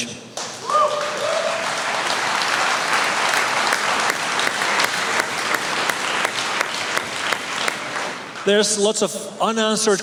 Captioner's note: applause